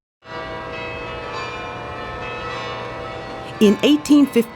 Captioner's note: church bells ring